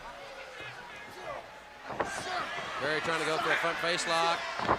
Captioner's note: crowd cheering